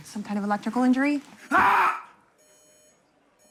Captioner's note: patient screams